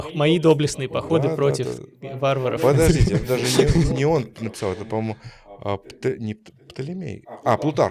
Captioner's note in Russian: смех